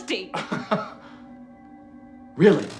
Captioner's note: Chuck laughing